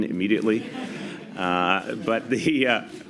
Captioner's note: laughter